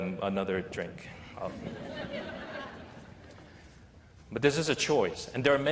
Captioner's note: laughter